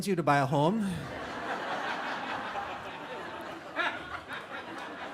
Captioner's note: audience Laughing